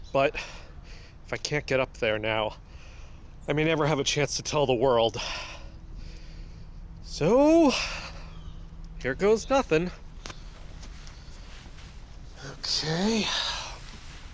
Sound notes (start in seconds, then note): 10.3 climbing up side of the building, breathing; 14.1 grunting